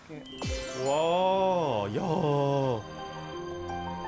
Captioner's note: truly an awestruck sigh